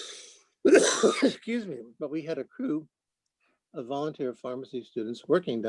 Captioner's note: cough